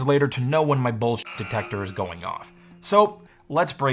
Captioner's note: buzzes